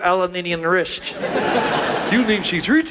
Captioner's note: audience laughs